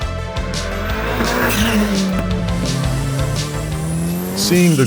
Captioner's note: car whizzes past